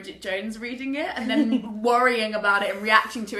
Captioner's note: laughs